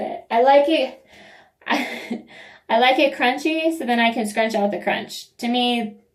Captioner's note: laugh